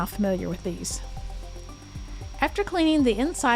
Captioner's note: vacuum whirring